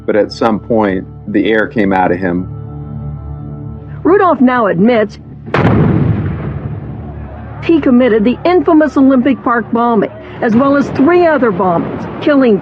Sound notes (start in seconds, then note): 5.4 explplososion n